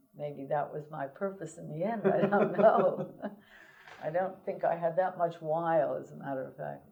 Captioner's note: laughter